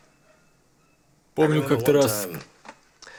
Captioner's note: laughs